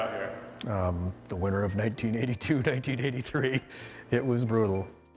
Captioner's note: laughs